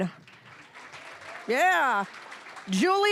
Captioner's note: applause